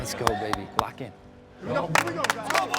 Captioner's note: team claps